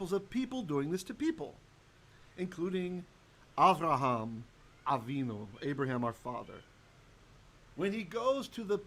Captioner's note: Hebrew